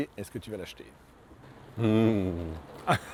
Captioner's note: laughs